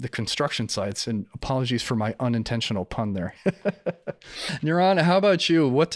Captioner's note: laughs